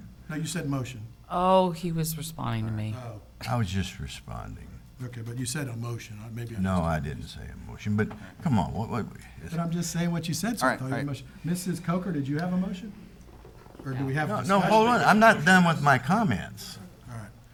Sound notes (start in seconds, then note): none